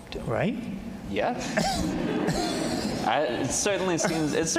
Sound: all laughing

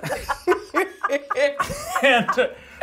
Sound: participants laughing

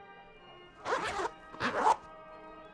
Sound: ziiip

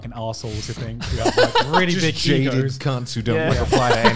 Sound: laughing

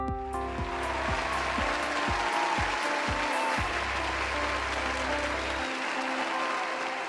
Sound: gentle upbeat music; audience clapping; audience cheering

